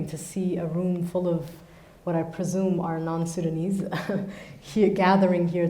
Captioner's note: chuckles